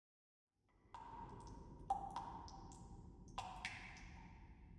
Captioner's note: water dripping